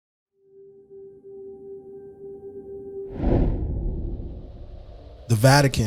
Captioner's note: air whooshing